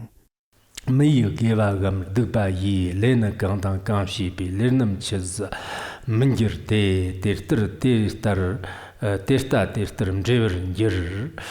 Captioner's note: giving oral transmission in Tibetan